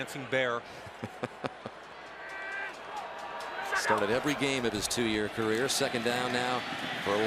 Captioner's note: laughs